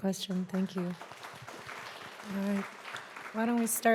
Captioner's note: audience applauding